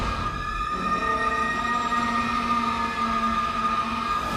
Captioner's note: high-pitched noise